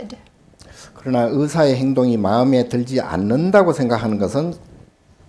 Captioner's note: speaking Korean